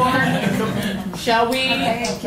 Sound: laughter

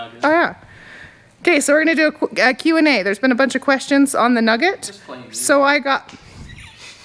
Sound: laughing

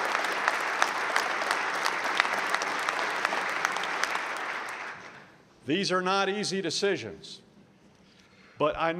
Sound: applause

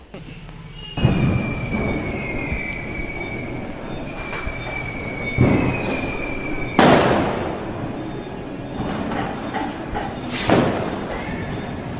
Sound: crackers bursting

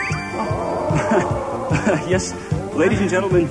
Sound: crowd Oohs

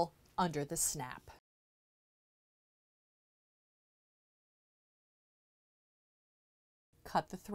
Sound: no Sound Present

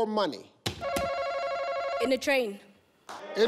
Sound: buzzer ringing

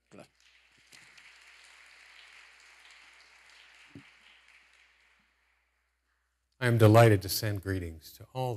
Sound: applause

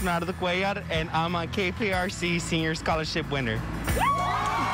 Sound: cheers and applause

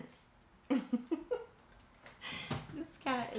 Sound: chuckles

